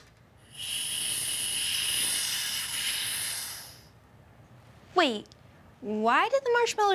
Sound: hissing

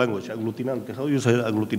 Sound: speaking in a foreign language

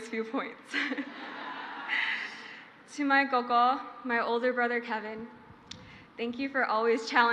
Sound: crowd laughs; speaking in foreign language

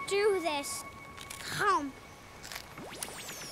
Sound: crunch

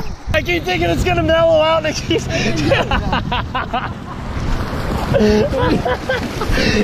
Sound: laughs

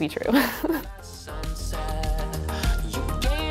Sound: laughs; soft music

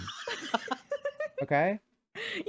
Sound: laughter

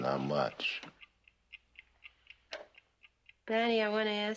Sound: clock ticking

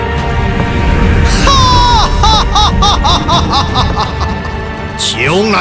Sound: laugh

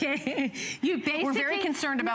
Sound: laughter

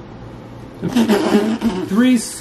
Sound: spitting

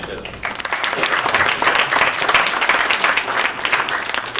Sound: applause

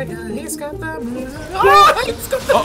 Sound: girly screaming

